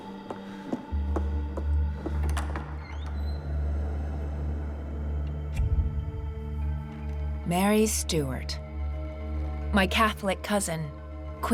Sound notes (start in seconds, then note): 1.9 door creaks; 5.5 dramatic music